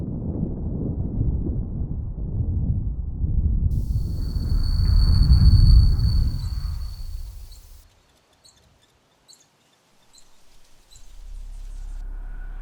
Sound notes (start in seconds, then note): 6.0 water running